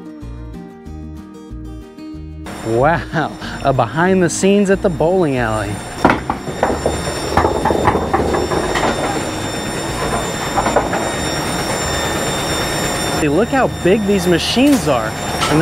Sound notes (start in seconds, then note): 0.2 playful music; 5.0 pins clattering